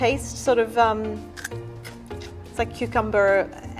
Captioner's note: crunchy chewing